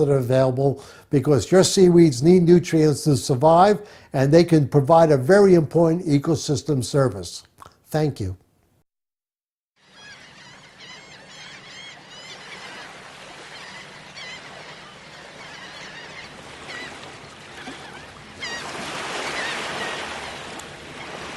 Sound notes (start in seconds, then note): 9.8 seagulls Cawing